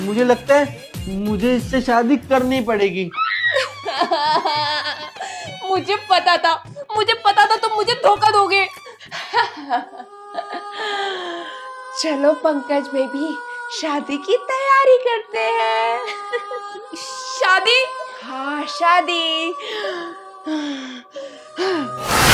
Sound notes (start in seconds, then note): 3.6 crying; 9.3 laughing